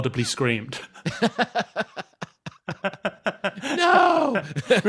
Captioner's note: both laugh